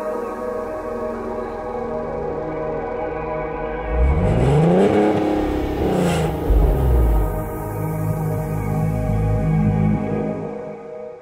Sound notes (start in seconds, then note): 4.8 engine revving